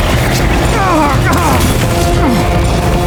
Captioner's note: eko painful yell